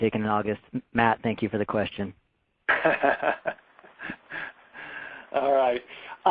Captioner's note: laughter